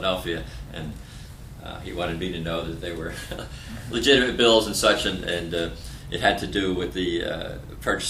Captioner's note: laughter